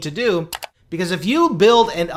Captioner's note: mouse clicks